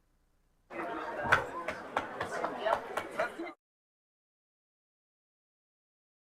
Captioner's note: colleagues talking amongst themselves